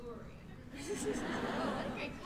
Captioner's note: laughter